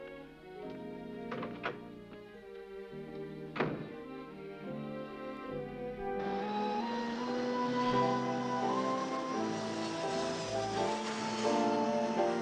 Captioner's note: door Opens, Closes